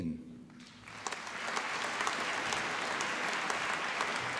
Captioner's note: applause